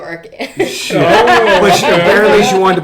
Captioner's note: laughing